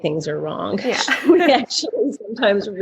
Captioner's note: laughing